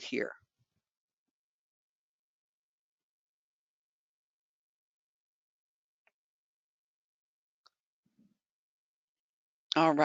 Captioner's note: 9 seconds pause